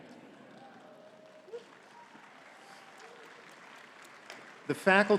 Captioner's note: audience clapping